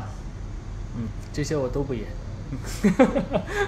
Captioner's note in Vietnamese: cười